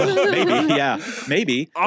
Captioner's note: laugh